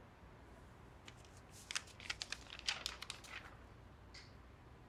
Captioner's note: paper rustles